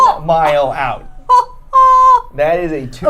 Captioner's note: laughing